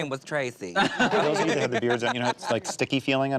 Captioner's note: everyone laughs